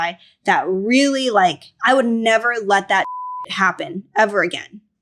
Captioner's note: beep